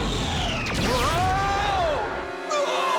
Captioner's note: yells